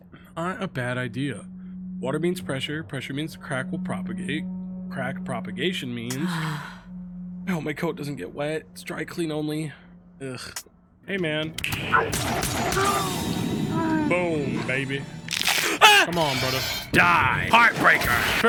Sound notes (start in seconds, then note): 11.6 gun fires; 15.5 yells